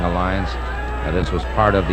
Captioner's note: audience hollering